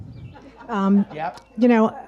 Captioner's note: audience laughs